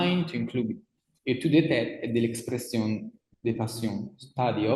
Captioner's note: speaks in foreign language